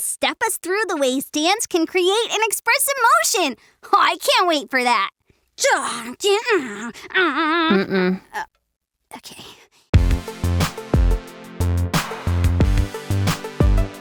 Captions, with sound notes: who will step us through the ways dance can create and express emotion. I can't wait for that! -[gasps and groans] -Mm-mm. [sighs] Oh, okay.